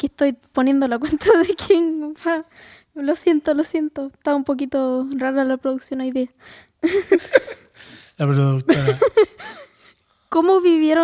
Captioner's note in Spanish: risas